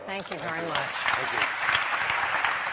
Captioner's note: applause